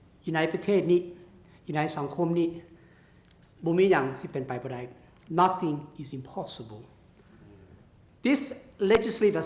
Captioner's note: laotian words spoken and translated